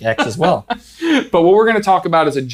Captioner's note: laughs